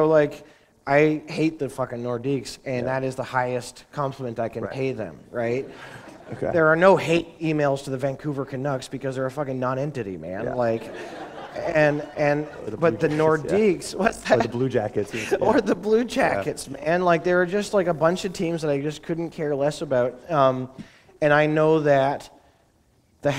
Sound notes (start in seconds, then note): 5.8 laughter; 10.6 laughter